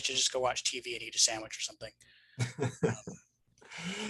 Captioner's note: laughs